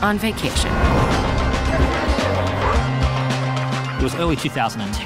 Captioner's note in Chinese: 振奮人心的音樂; 交通嘈雜聲